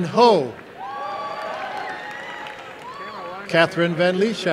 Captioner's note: applause and cheering